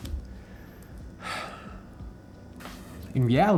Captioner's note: sighs